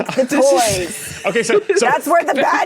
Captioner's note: giggles profusely